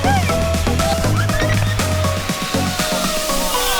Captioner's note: group screaming; group laughs